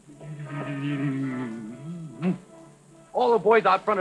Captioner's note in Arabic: يدندن